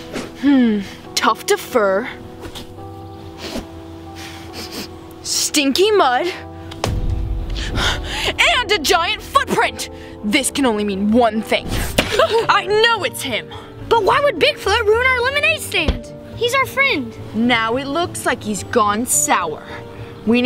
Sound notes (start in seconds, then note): 4.1 sniffs